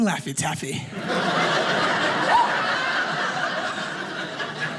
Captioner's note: audience laughing